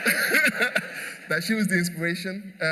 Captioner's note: laughter